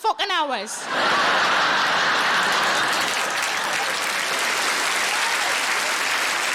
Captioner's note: audience laughing and applauding